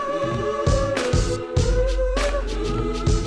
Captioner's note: none